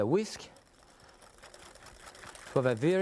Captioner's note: whisk scraping